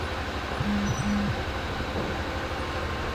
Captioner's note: cellphone vibrates